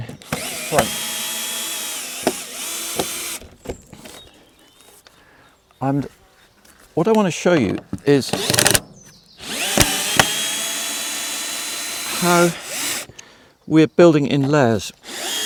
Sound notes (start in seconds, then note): 0.1 drilling; 9.4 drilling